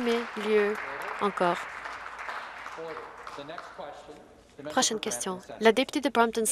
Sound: some Applause

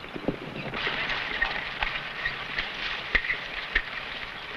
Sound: horse hooves pattering

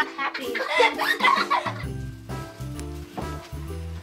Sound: boys laughing

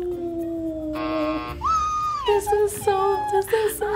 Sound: squeals; buzzer

